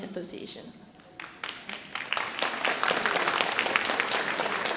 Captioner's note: audience applauding